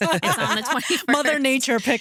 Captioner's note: laughing